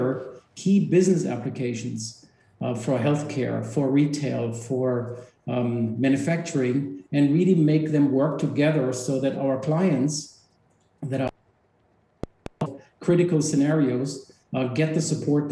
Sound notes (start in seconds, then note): 12.2 audio malfunction